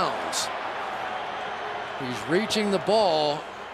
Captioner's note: booing